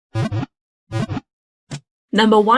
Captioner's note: Pokéball wiggle sound